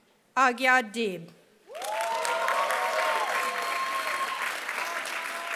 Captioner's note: applause